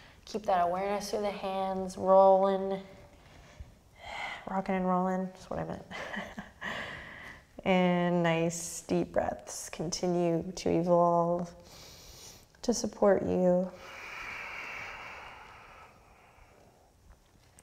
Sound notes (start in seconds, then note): 7.1 laughs; 13.7 deep breathing